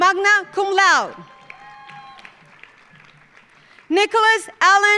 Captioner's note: audience cheering; audience applauding